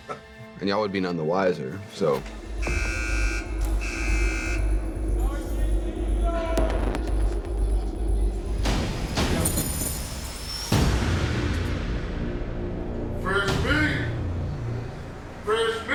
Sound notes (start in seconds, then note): 2.5 alarm beeping; 5.4 intense music and chattering; 9.7 intense music